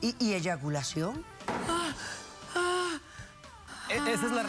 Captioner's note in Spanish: gemidos